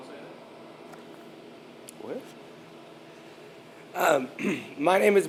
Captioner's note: clears throat